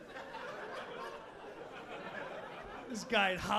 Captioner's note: audience laughing